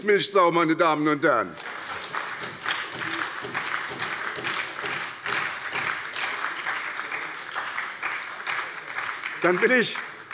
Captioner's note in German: Heiterkeit und Beifall bei der SPD